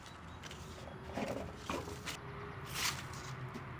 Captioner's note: trash scuffles